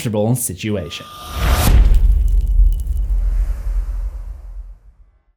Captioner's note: impact